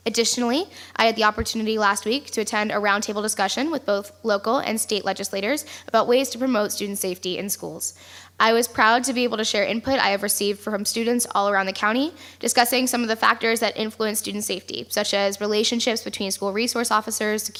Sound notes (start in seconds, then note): none